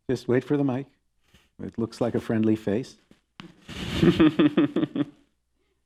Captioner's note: chuckles